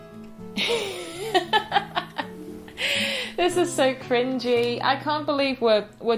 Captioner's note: laughter